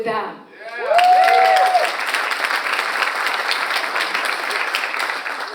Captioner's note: audience applauds